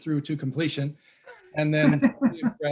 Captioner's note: laughs